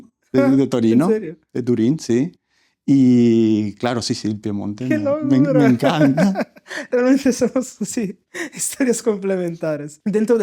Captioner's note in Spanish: risas